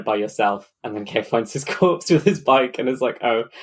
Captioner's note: laughing